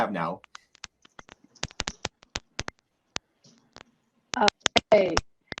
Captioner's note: cracking sound